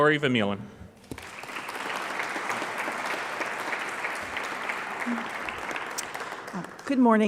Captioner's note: clapping